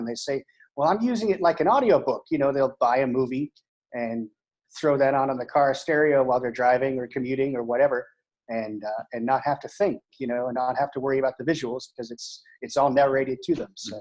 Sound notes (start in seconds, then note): none